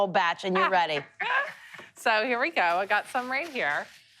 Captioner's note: laughs